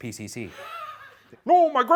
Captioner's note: laughing